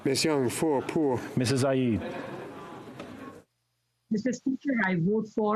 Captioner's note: speaking French